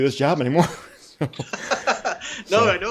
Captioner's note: both chuckling